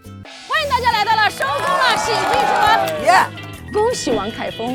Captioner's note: laughs